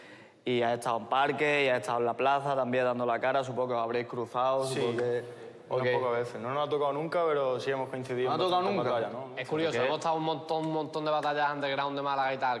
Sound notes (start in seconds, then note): none